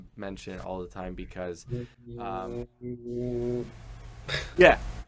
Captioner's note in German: zeigt scherzhaft die Übung, lacht